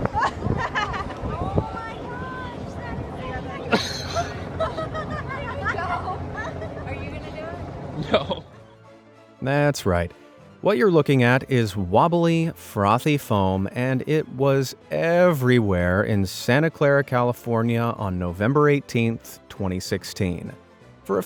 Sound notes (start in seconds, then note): 0.0 group laughing; 3.6 group laughing; 7.9 laughs